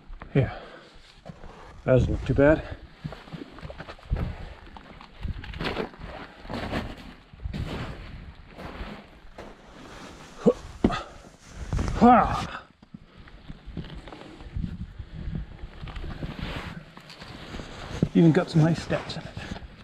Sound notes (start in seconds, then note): 5.6 footsteps crunching; 10.8 grunting